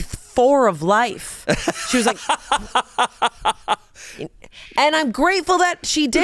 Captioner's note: laughs